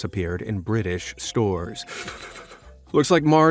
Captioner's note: gasp